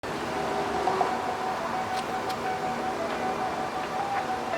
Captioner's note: wind blows